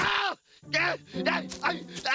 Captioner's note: groaning